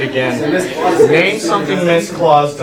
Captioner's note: chatter